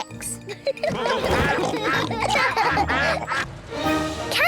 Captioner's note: quacking; all giggle